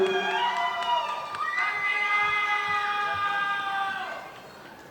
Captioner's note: audience applauding